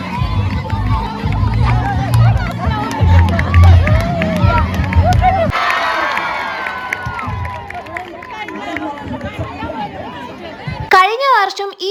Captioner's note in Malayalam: കരഘോഷം